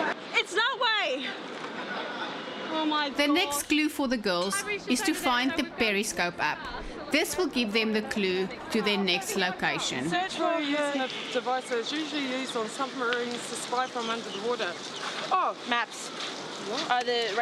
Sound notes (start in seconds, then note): 3.4 narrating